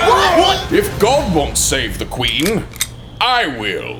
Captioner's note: cocking gun